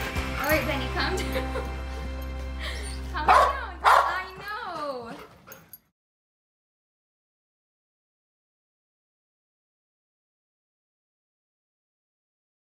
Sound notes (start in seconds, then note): 1.1 chuckles; 3.2 dog barks; 3.8 dog panting